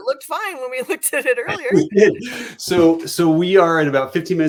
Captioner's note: laughter